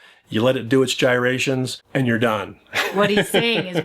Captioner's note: laughs